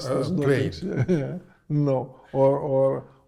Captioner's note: chuckles